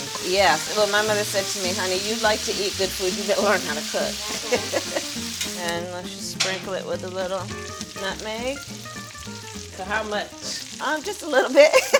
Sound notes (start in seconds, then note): 4.6 laughing; 8.8 oil popping